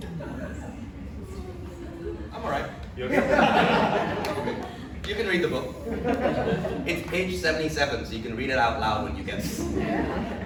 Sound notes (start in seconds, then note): 3.0 audience laughs